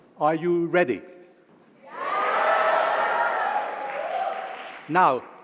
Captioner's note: cheering